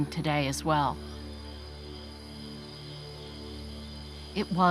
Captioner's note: crickets chirping